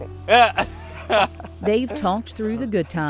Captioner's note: laughing